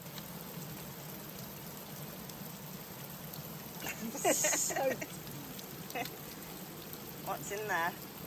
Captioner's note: giggles